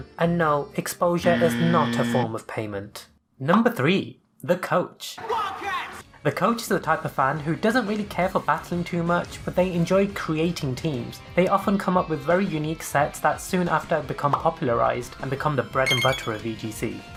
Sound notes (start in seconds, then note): 5.2 Audio from High School Musical: "WILDCATS"